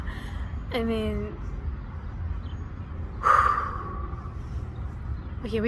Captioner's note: exhale